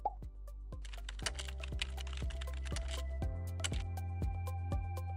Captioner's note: keyboard clacking; gentle music